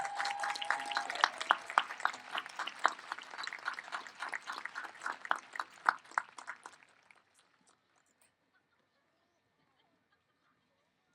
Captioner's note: applause